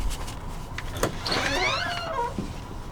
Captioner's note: door opens